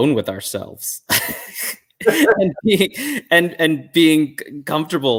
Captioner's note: chuckles